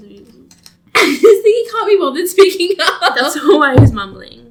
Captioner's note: laughs